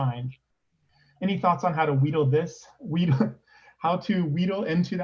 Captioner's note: laughs